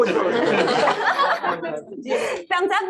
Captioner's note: laughter